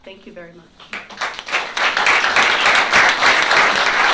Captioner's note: applause